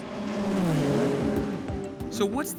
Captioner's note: engine revs